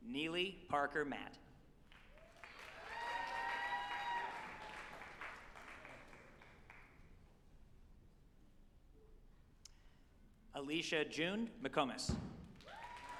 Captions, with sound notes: Neeley Parker Matt, (group applauding and cheering) Alicia June McComas,